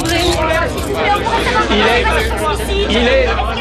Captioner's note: all clamoring